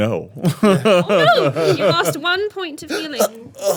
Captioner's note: laughing